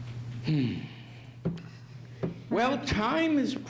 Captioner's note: sighs